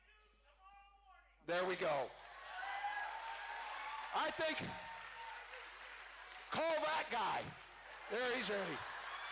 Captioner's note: cheering